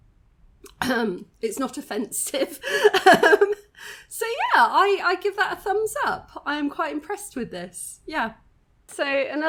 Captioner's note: clears throat; laughs